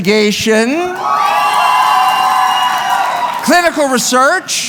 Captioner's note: cheering